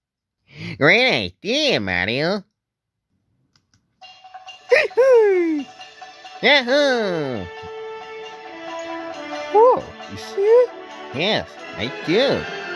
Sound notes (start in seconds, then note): 4.7 Mario & Luigi exclaim responding to the music